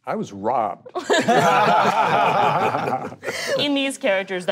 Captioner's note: group laughing